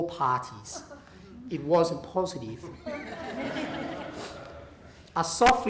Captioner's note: laughter